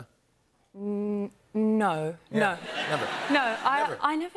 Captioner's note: laughter